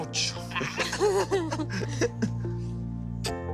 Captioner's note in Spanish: Risas